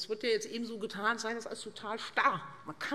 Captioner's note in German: none